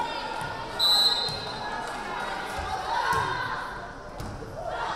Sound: whistle blaring

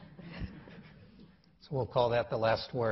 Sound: quiet chuckling

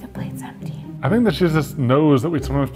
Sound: whispers

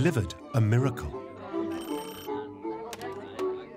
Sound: phone rings

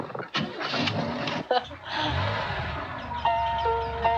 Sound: engine starts

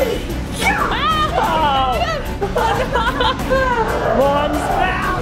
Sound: laughs

